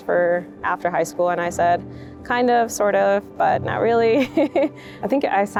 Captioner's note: chuckles